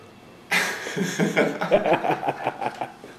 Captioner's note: laughing